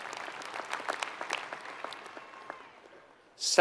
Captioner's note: applause